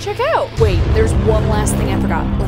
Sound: dramatic sound

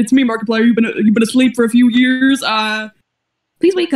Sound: glitching slightly

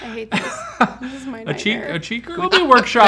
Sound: laughs

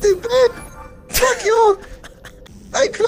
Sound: short Laugh

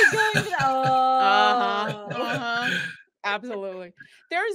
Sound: group exclaiming

